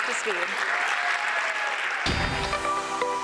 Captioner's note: cheers and applause